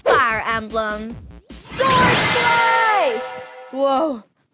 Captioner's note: sword slashing